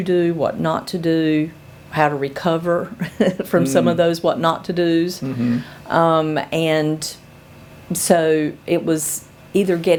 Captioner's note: laughs